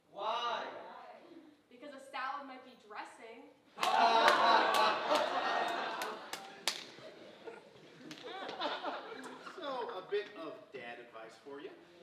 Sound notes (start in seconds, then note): 3.8 audience laughing